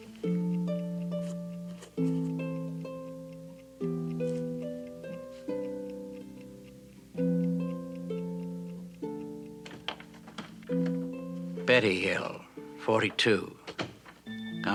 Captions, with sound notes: [door clicks open] Betty Hill, 42, [enchanting atmospheric music]